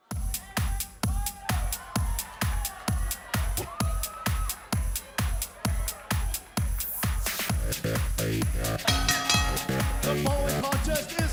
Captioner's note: crowd cheering